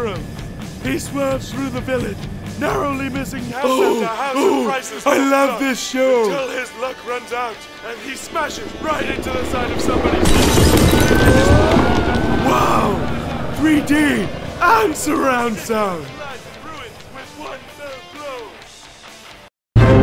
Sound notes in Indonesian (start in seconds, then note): 10.9 sirine; 16.1 suara tv tedengar